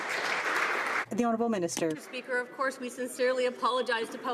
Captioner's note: some Applause